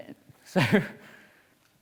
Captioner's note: chuckles